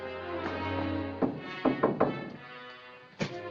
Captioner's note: knocking on door